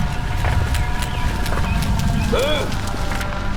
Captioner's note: volcano rumbling continues; ethereal music continues